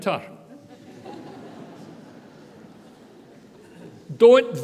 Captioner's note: audience laughter